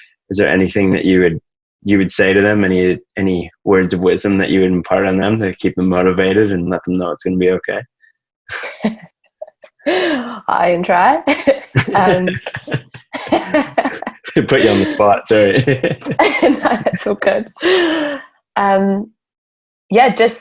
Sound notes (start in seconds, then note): 8.6 laughs; 11.3 both laugh